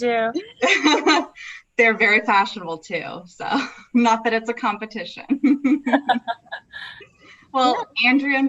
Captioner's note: laughs; everyone laughs